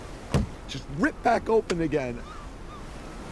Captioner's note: hand thuds